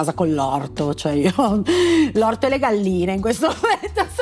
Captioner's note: chuckle; laugh